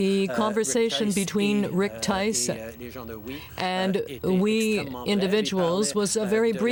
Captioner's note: speaking French